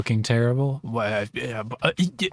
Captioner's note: confused verbal floundering